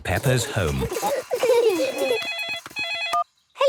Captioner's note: giggling; phone ringing